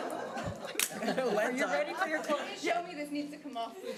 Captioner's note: audience laughing